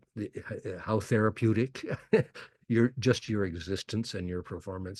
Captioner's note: laughs